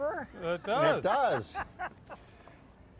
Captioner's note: laughing